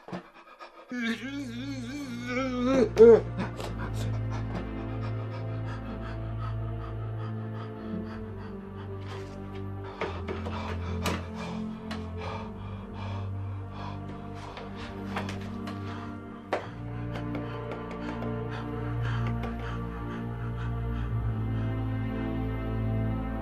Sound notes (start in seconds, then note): 0.6 moaning in pain; 2.1 tragic music